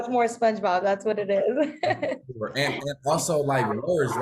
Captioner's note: laughs